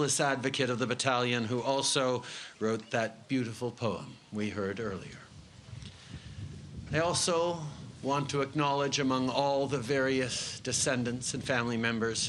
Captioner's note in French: Voix en Anglais